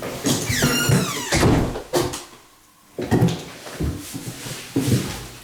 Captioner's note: creaking door